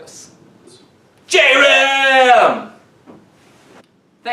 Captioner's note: shouting